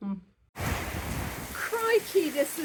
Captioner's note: loud rain